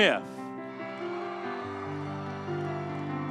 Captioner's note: audience cheering; soft music continues